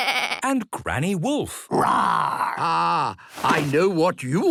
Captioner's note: bleating; roaring